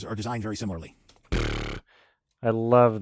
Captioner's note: buzzes lips